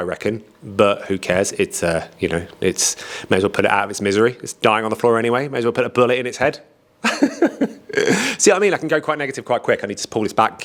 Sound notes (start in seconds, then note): 7.0 laughs